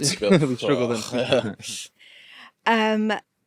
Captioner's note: group laughing